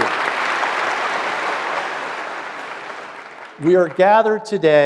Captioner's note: applause